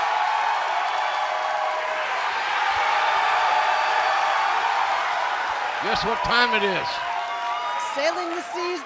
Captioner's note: cheers and applause